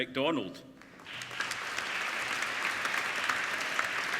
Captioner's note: applauding